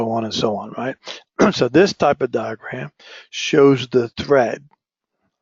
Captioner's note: cough